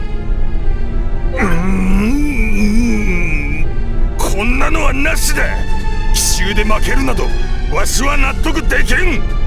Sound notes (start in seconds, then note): 1.3 frustrated groan